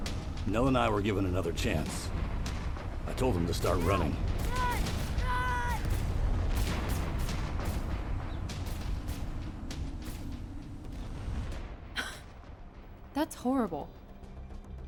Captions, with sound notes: Nell and I were given another chance. I told him to start running. Run, run, run! (dramatic music) (lasers blasting) - That's horrible.